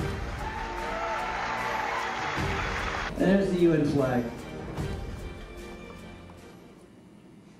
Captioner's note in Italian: Applausi